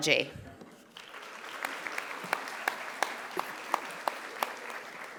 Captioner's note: audience applauding